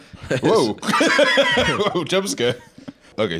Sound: laughs

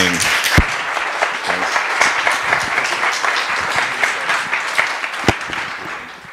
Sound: applause

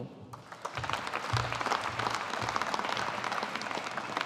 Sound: audience applauding

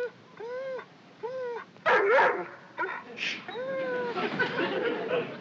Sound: whimpering; barking; whimpering

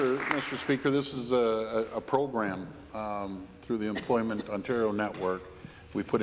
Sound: applause

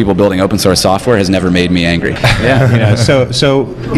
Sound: laughs

